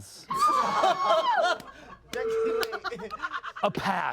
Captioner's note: everyone laughs